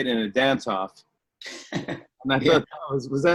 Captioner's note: laughs